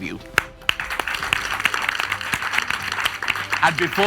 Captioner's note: audience applauds